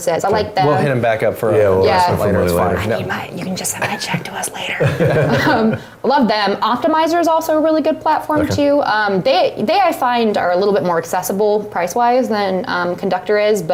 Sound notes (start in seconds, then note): 2.6 whispers; 4.8 laugh